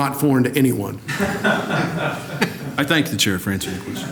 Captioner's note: laughter